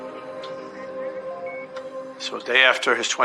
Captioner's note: heart monitor beeping